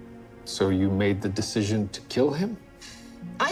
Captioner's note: none